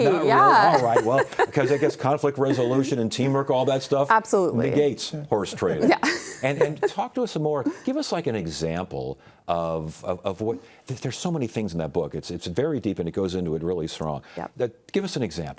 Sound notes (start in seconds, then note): 5.8 laughs